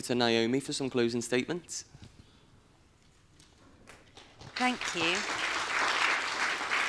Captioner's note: applause